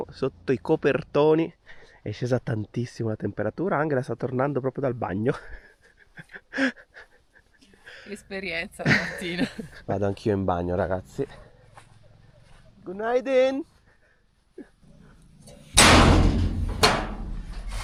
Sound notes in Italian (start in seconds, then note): 8.8 risate